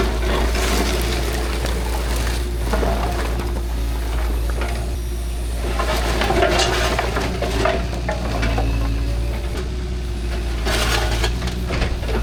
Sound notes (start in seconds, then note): 1.0 engine rumbling; 5.8 metal clanking; 10.6 metal clanking